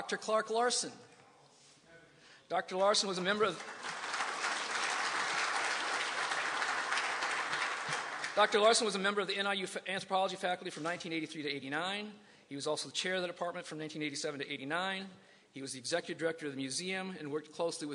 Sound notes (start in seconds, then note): 2.7 applause